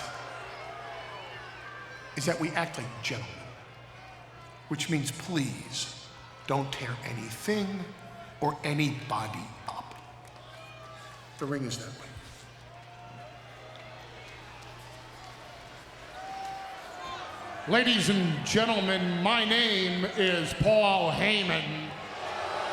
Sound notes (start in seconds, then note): 14.8 crowd murmuring; 22.5 crowd booing